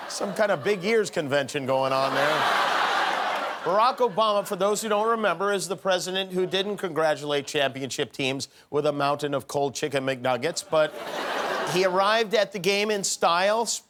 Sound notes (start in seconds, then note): 1.8 laughter